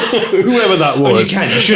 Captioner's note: laughing